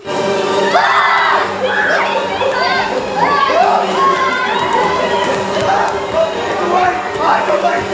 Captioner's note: screams